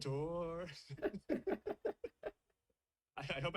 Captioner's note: both laugh